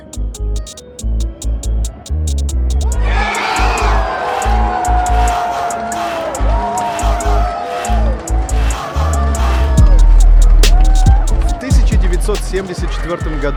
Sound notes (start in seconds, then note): 3.0 болельщики скандируют